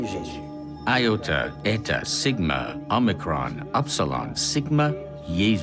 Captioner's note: speaking in foreign language